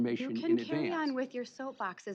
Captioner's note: chuckles